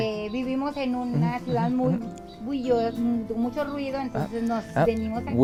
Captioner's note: speaks foreign language